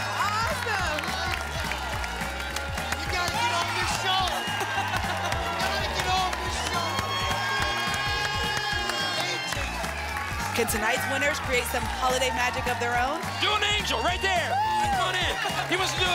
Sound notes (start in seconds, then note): 1.5 applause and cheering cont; 4.6 laughs; 7.5 applause and cheering cont